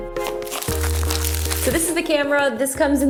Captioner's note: crinkling